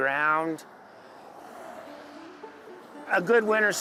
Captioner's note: vehicles driving